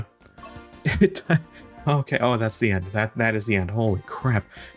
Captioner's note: laughs